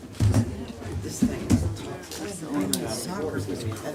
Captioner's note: murmured chatter